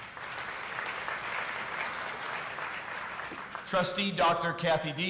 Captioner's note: audience applauding